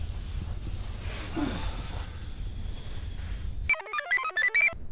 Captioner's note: sighs; computer chirps